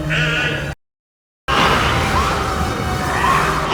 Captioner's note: snake hissing